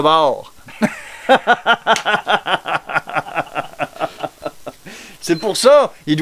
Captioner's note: laugh